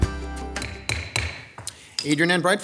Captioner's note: gavel banging